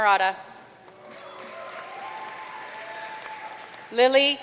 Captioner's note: audience cheering and applauding